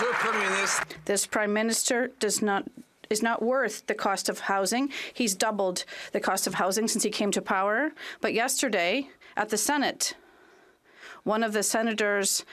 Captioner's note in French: applaudissements